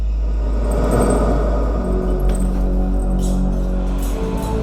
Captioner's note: chandelier rattles